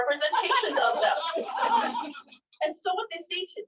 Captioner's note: laughter